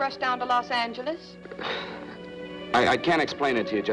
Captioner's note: sighs